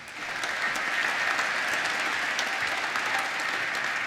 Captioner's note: applause